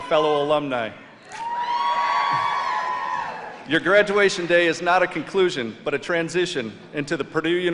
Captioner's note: cheers and applause